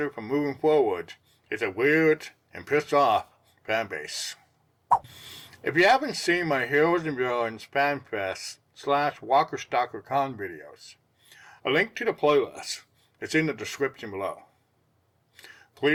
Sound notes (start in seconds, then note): 4.9 swipe Sound